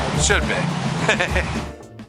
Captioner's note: giggles